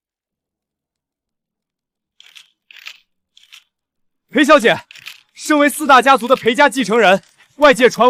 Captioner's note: camera clicking